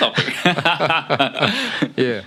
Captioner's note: laughs